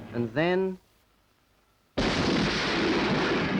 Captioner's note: explosion